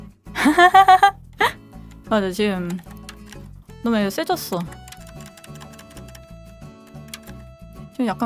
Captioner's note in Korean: 웃음